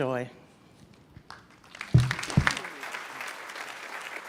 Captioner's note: applause